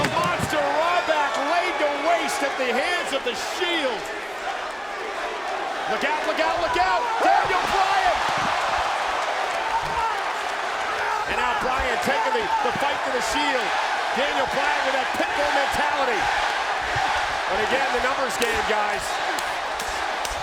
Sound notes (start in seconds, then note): 8.2 applause